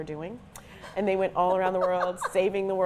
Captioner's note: laughs